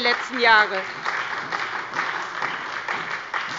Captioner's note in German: Beifall bei der SPD